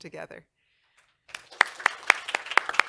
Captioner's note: applause